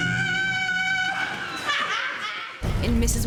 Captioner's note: cackling